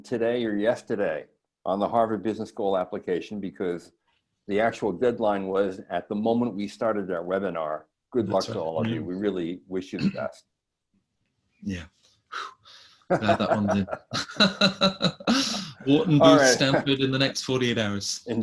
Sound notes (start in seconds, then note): 13.0 laughs